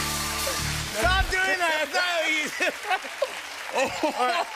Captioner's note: both laugh